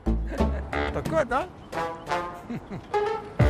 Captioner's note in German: Lachend